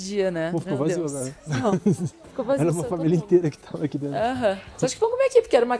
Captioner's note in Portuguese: risadas